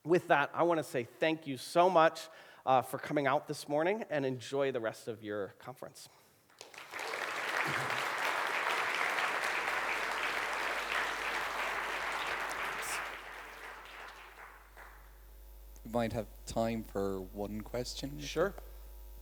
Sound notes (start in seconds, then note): 6.5 applause